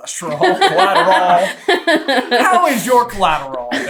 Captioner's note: laughing